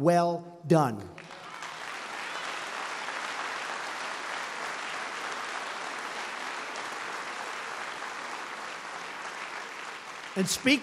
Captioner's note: applause